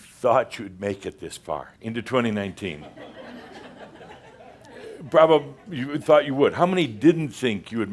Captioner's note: laughter